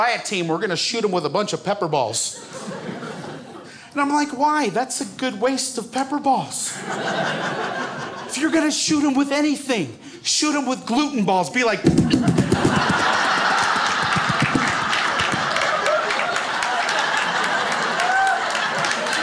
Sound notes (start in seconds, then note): 13.6 popping sounds; 15.4 crowd laughs